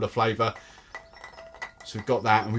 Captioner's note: ice clinks